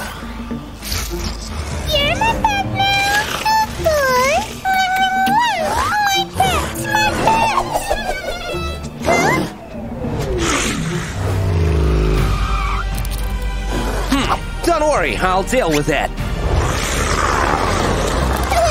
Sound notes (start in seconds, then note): 2.9 starts giggling